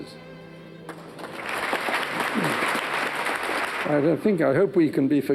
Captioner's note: audience clapping